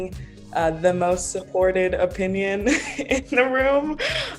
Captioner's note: laughs